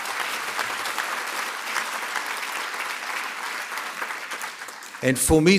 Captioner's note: applause